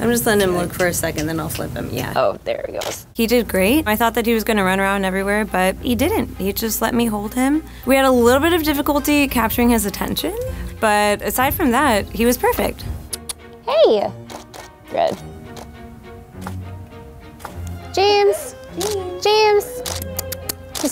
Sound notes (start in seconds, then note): 13.0 kissing teeth